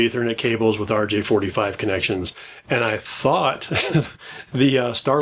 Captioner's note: laughs